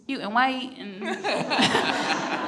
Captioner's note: everyone laughs